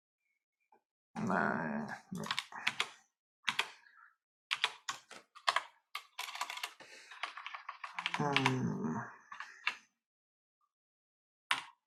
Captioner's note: typing